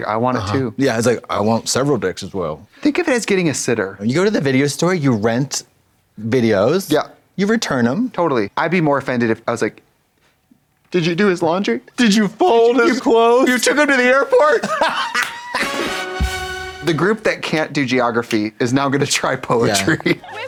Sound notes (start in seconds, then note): 14.5 Katya hollers; 14.6 upbeat music